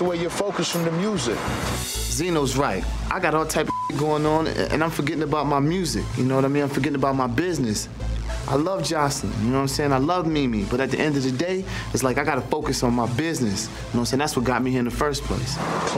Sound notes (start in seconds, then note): 3.5 beep